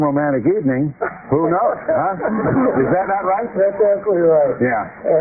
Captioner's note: laughter